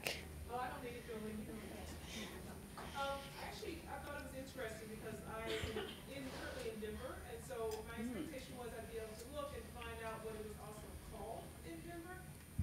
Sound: laughter

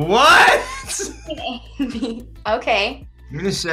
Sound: laughing

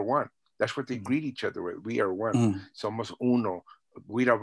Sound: spanish

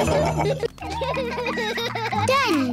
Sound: all laugh; both laughing

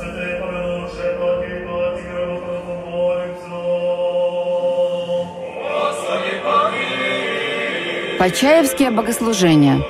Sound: prayer sounds

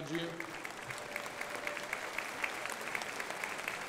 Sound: crowd applauding

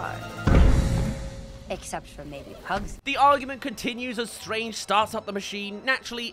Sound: explosion

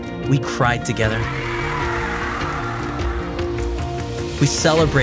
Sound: crowd cheering

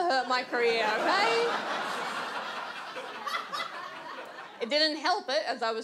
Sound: audience laughs

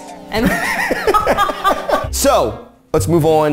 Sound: both laughing

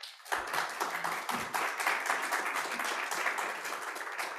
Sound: audience applauding

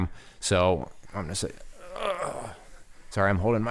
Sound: groans

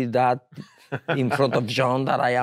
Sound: laughs

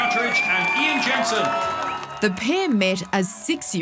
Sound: cheering

